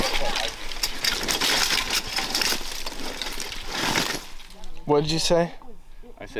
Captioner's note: equipment continues rattling